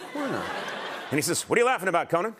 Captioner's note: laughter